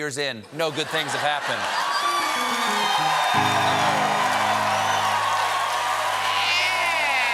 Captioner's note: cheers and applause